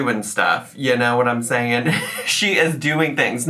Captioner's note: laughs